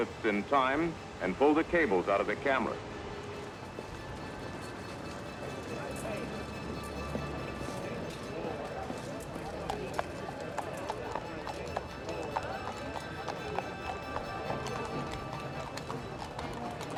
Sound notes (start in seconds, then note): 3.7 orchestral music continues; 9.9 hooves clopping